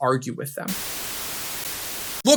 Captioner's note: static noises